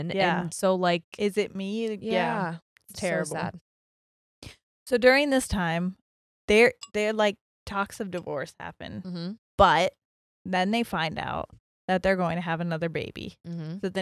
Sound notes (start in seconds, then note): none